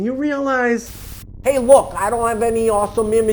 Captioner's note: static crackling